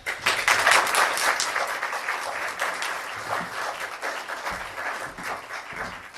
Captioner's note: applause